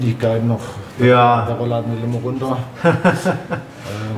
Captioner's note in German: Lacht